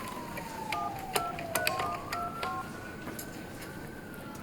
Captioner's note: phone beeping